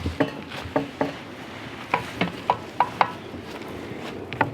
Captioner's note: knocking